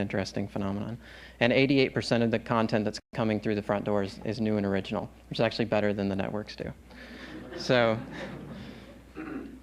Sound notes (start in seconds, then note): 7.2 laughter